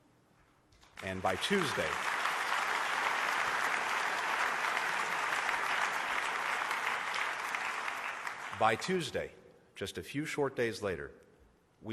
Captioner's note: applause